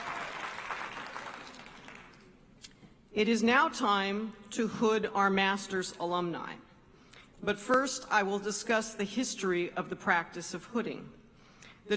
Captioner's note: applause